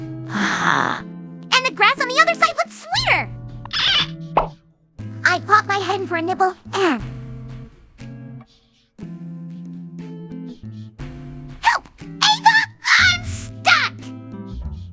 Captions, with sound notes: Uh-huh... ...and the grass on the other side looked sweeter. *POP!* I popped my head in for a nibble and... HELP! AVA! I'M STUCK!